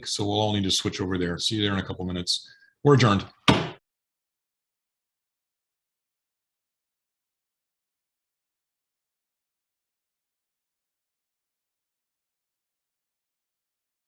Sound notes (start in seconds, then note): 3.4 gavel bangs